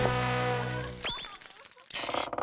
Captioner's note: chatting